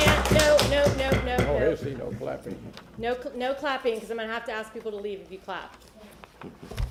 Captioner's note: applause; sounding gavel